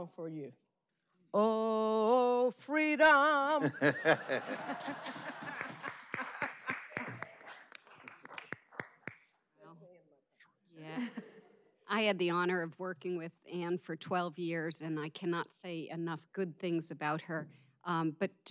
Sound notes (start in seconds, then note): 10.9 laughter